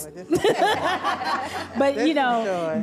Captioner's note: audience laughs